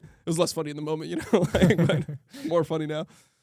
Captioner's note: laughs